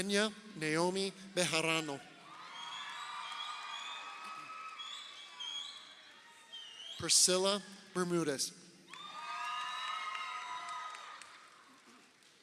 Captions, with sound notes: Kenia Naomi Bejarano. (crowd cheering) Prescilla Bermudes. (crowd cheering)